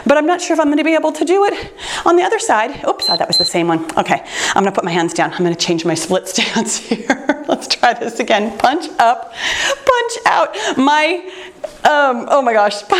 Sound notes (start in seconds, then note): 3.0 timer beeps